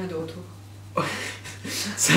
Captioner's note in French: Rire